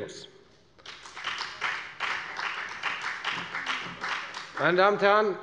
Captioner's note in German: Beifall bei der FDP